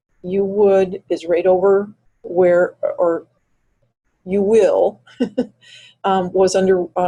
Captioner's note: chuckles